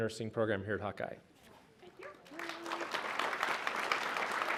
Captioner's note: applause